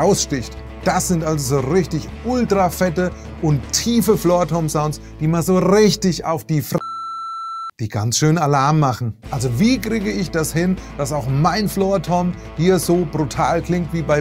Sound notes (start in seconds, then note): 6.8 beep